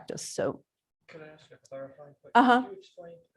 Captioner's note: man, quietly